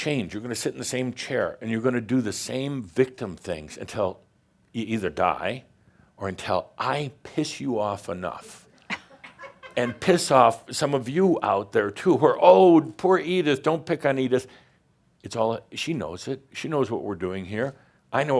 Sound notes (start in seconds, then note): 8.7 a few chuckles